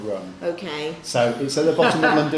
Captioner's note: laughs